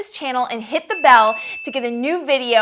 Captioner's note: chiming bell